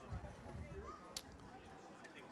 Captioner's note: none